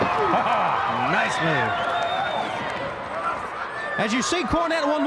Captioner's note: laughs